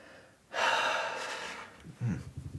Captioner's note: sighs